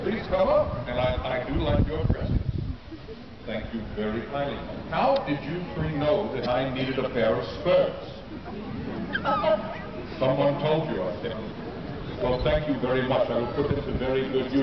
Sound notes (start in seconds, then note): 8.3 laughs